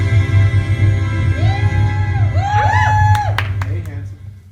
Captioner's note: light whoops & hollers